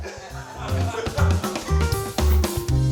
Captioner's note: laughs; piano music